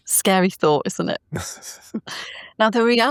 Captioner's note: laughing